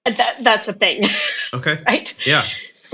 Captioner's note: laughing